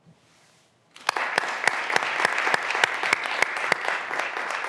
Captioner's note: graduands applauding